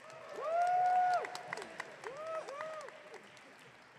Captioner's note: audience cheering